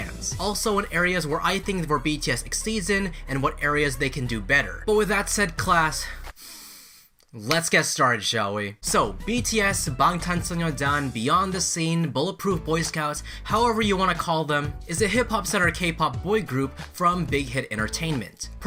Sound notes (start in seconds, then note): 6.1 deeply inhales